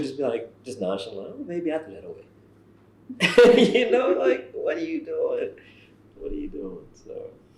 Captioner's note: laughs